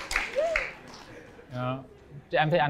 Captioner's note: applause